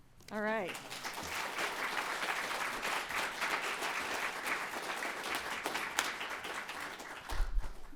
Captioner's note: applause